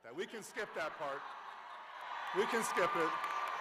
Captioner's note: cheers